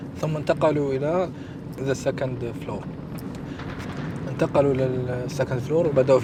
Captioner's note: speaking in Arabic